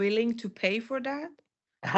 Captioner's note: laughs